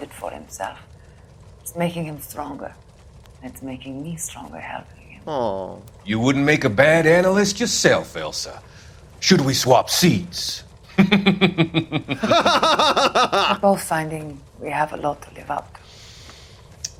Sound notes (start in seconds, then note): 10.9 laughs evilly; 10.9 Fontaine laughs evilly